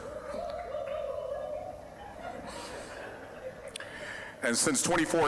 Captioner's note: scattered cheering